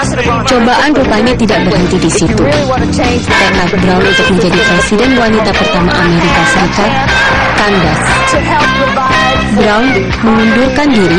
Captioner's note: non-english speech